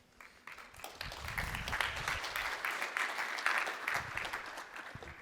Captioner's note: applause